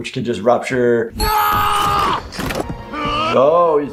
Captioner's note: screams angrily